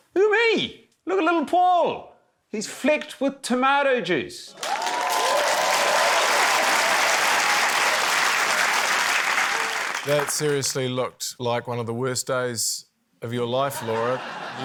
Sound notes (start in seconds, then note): 4.5 cheering, applause